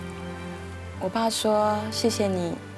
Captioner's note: Mandarin